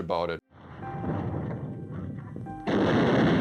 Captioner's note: shell exploding